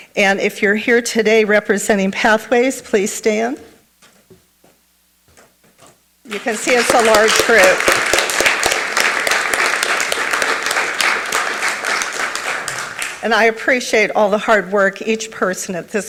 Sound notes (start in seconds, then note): 8.4 everyone applauds